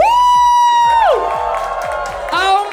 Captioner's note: cheering